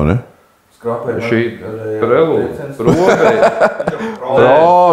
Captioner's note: laughs